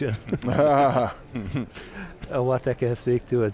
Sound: all laughs

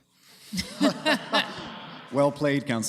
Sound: laughter

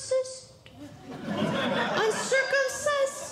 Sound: audience Laughing

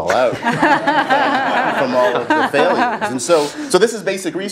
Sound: laugh

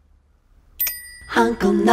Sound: ding!

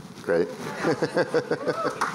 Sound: laughter; applause

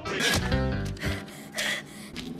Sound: pants

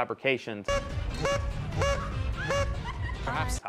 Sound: beeping

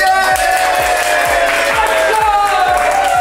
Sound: cheers and applause

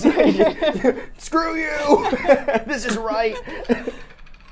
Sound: laughs

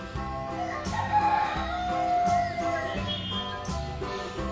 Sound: rooster crows

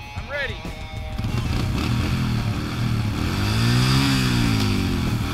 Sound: dirt bike engine revving

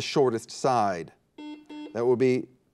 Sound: buzzer beeps

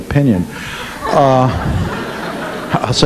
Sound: audience laughing

